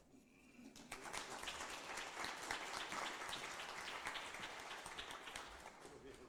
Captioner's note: applause